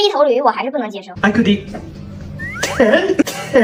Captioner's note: cough cough